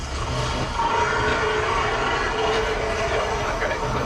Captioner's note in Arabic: زئير الديناصور